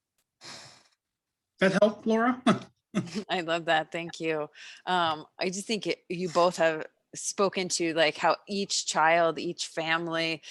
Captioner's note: laughs